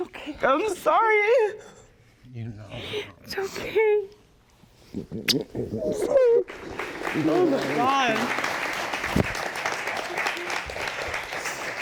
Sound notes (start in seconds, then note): 6.4 audience applauding